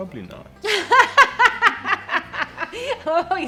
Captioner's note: laughs